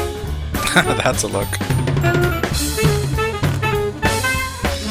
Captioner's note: chuckling